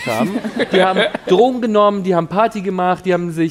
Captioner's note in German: Lachen